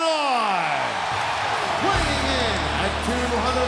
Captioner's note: crowd cheers; rock music plays